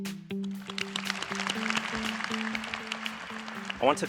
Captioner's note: applause